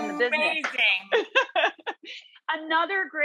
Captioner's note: laughs